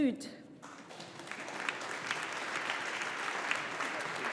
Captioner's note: audience applauding